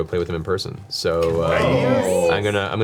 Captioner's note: all cheer